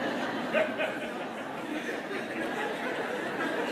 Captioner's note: laughter